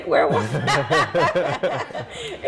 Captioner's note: both laugh